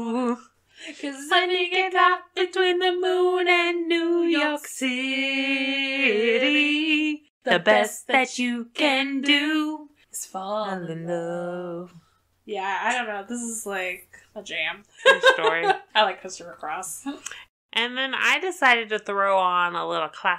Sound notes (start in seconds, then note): 15.0 laughs